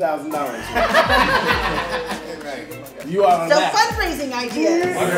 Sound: laughter

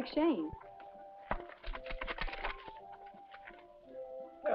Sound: telegram rustling

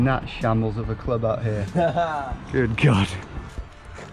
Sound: laughing

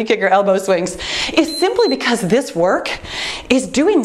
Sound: timer beeps

